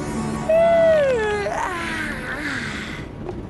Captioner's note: yawn